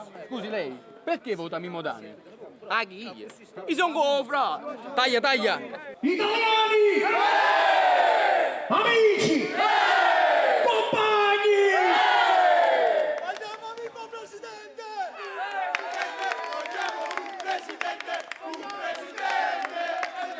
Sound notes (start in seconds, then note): 6.8 crowd cheers; 9.4 crowd cheers; 15.0 crowd cheers; 16.3 crowd